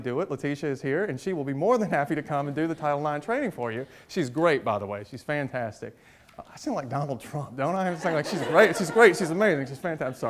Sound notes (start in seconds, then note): 7.8 audience laughs